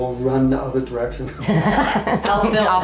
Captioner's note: laughing